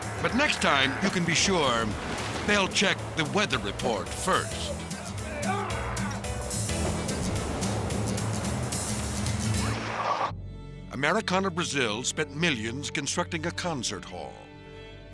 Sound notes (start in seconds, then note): 5.4 passenger yelps; 5.4 upbeat music; 9.2 logo whooshes